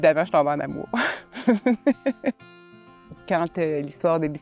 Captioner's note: laughter